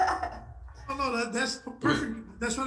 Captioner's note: laughing